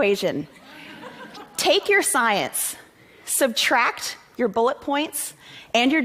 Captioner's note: laughter